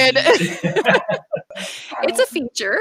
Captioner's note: laughing